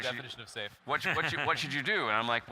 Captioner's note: laughing